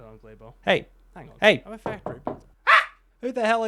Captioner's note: knocks